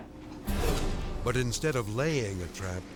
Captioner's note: dramatic whoosh